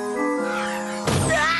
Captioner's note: crash